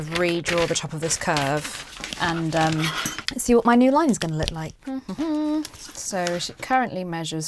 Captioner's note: hums a little tune